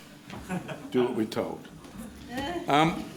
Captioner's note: laughing